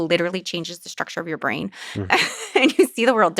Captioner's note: laughs